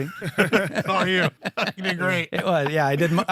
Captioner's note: laughing